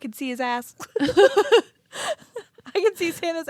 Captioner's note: both laughing